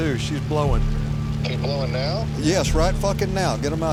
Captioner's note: on phone